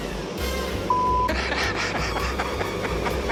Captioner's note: laughs